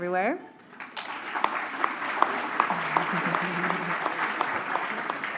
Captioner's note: applause